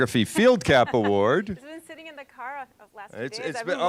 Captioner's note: laughing